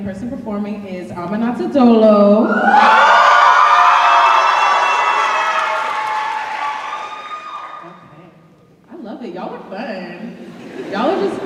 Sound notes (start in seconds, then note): 2.4 cheers